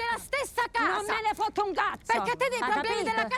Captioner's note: arguing in Italian